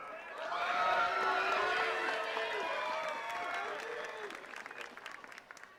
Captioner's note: attendees cheering and clapping